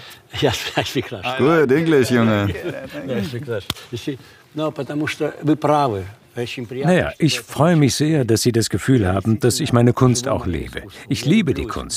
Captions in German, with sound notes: (lacht:) I'll speak Russian. - Good English, Junge! (russisch:) Na ja, ich freu mich sehr, dass Sie das Gefühl haben, dass ich meine Kunst auch lebe.